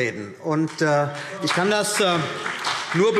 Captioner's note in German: Beifall CDU und BÜNDNIS 90/DIE GRÜNEN